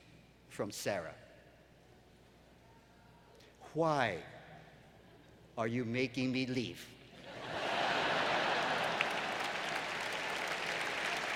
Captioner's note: laughter